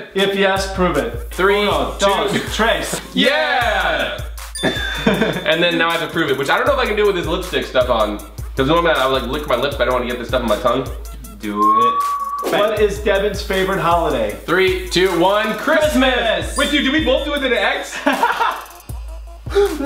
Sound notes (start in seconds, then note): 4.8 laughs; 11.3 Collins whistles; 17.8 brothers laugh loudly